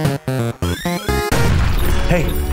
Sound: playful music; explosion booms

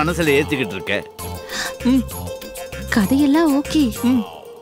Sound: gasps

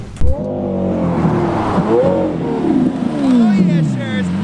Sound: revving

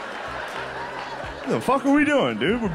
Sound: laughter

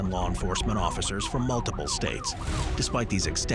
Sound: siren blaring

